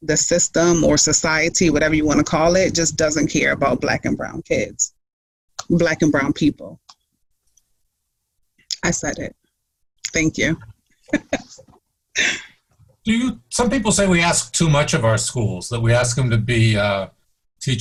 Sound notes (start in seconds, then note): 11.1 laughs